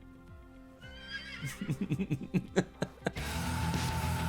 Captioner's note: horse neighs; rock music